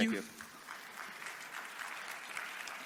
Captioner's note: applause